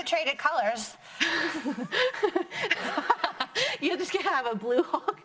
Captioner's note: laughs